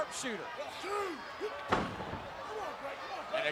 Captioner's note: foot stomps